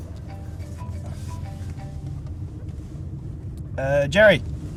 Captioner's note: cell phone ringing